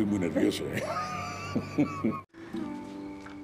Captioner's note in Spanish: risas